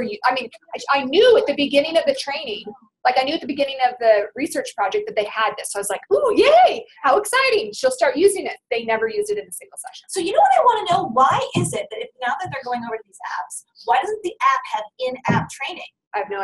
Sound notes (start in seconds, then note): 10.1 voiceover